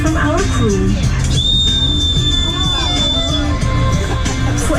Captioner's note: whistling